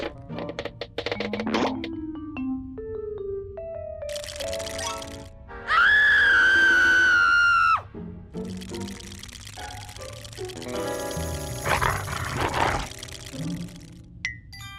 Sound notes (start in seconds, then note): 4.1 teeth chattering; 5.6 screams; 8.5 shivering; 11.6 growls